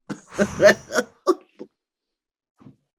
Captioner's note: laughs